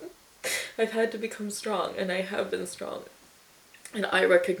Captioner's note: inhales sharply